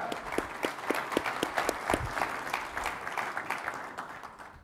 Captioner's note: audience applauding